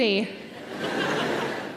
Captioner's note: audience laughing